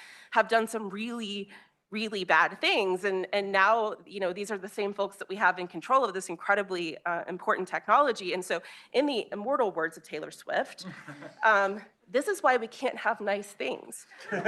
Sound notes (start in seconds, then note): 10.8 chuckling